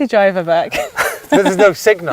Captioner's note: laughs